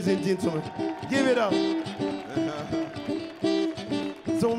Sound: crowd applauding

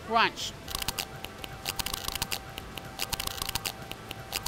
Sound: chip crunches

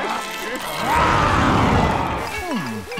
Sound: roaring

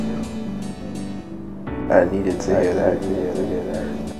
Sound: echo

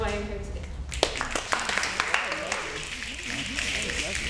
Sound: snapping

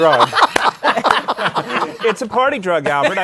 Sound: laughter

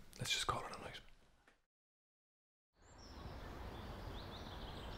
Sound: birds singing

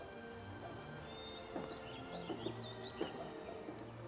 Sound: birds chirping

